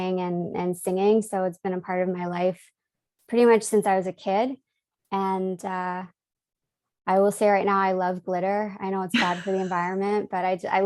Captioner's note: laughs